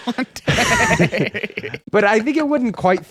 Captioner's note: laughing